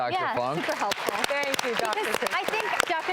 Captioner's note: applauding